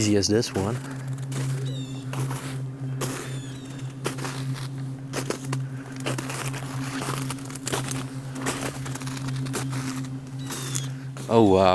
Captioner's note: footsteps shuffling through the snow